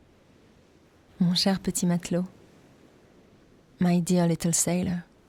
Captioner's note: speaking in French